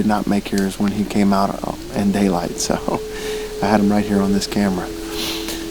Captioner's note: chuckle